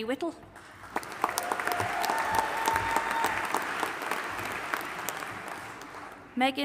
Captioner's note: audience applauding and cheering